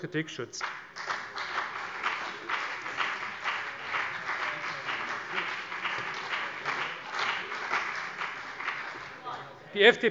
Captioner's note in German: Beifall CDU